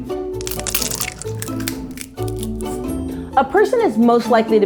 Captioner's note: egg cracking